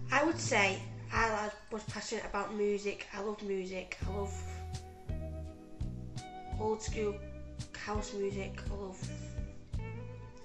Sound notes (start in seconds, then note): none